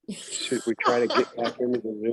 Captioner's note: laughs